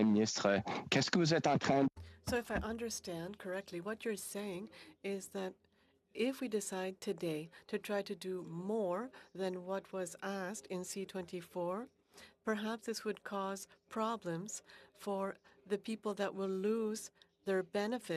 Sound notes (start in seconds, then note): 1.4 speaking French